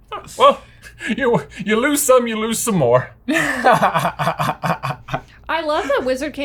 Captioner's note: laughter